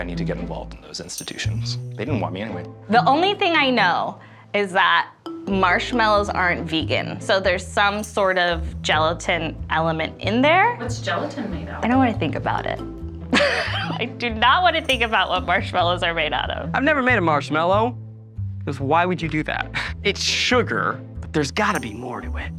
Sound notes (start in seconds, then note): 13.3 laughing